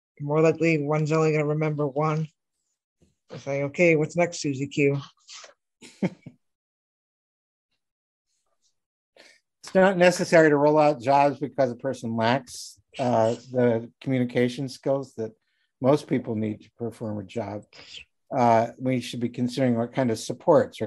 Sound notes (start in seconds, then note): 5.8 laughing